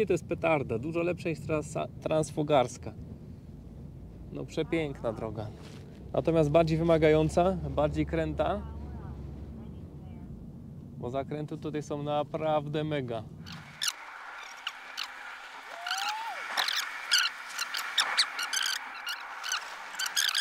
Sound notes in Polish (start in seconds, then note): 14.6 Aplauz